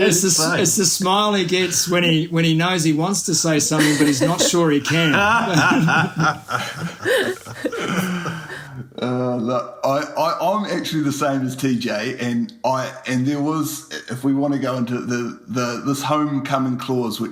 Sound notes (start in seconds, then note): 3.7 laughs